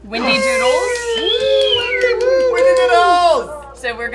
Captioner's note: cheering